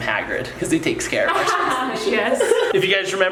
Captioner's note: laughs